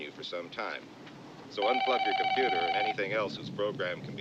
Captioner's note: phone ringing